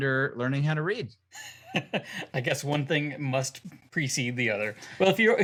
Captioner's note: laugh